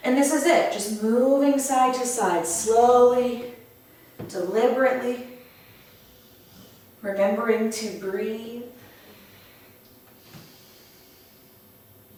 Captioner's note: audible breath